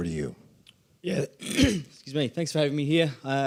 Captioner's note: clears throat